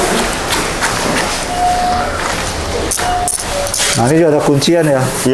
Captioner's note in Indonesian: suara bel pintu